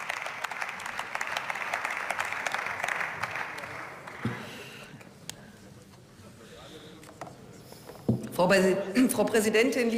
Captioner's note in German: Beifall